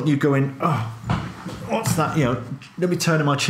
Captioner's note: grumbles